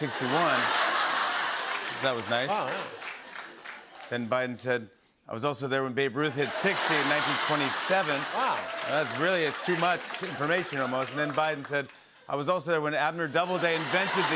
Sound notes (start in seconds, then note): 0.0 laughter; 6.4 laughter